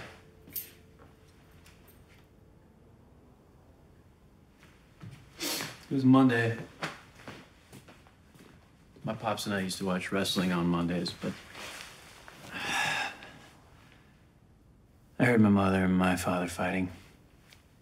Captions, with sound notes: [ Sniffs ] It was a Monday. My pops and I used to watch wrestling on Mondays, but... [ Sighs ] ...I heard my mother and my father fighting.